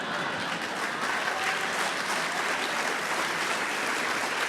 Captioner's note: applause